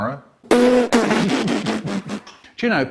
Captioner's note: snorts away like mad